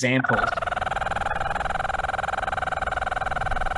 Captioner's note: bird calling